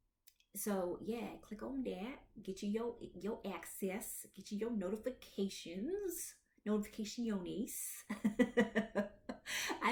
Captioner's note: laughs